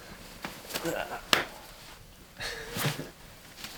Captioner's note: chuckles